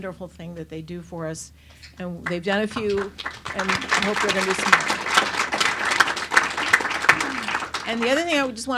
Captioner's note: claps